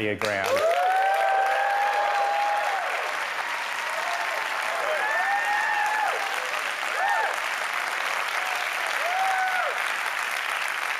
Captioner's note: applause